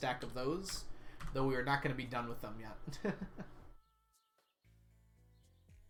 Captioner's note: laughs